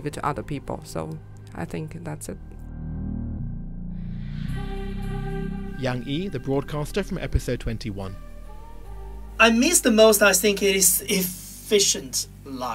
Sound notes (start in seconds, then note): 3.4 voiceover